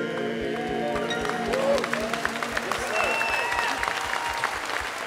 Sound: applause

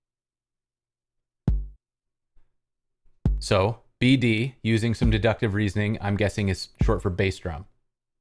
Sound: thump, thump, thump

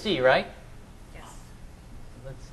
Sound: voiceover

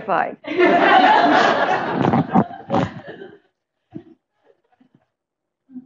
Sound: laughter

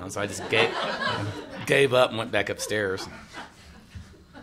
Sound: laughter

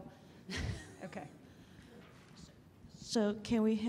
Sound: laughter

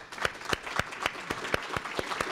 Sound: applause

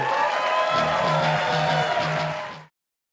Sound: audience cheering

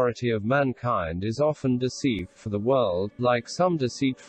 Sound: voice reads

